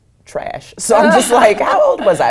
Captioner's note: laugh